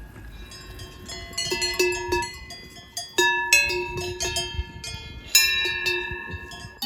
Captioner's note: cow bells ringing